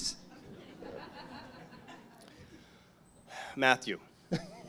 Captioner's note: audience chuckles